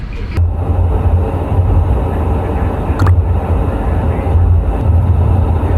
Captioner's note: low-pitched aeroplane engine roaring